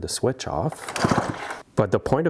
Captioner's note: chainsaw whirring